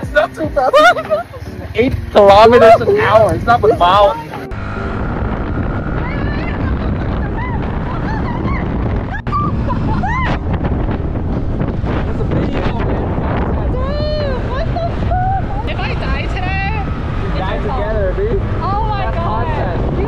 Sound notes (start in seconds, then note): 4.3 just me screaming the whole time